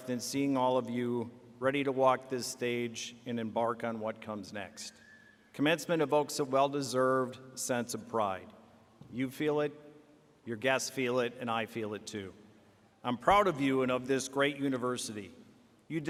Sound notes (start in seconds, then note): none